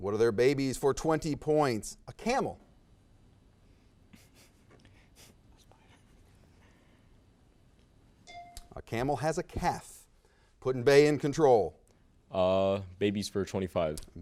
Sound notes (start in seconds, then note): 8.2 bell dings